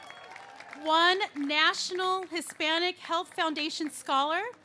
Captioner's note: cheers and applause